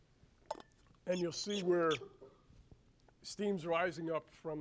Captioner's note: squeak of water bottle cap